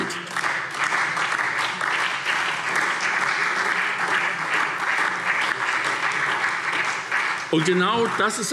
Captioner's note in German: Beifall SPD und vereinzelt DIE LINKE